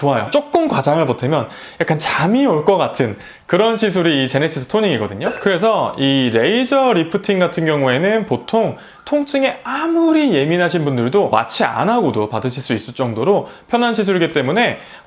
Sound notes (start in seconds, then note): 5.2 ultrasonic - Painful